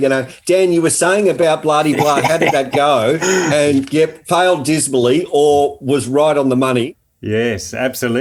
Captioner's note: both laughing